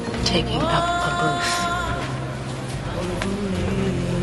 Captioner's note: none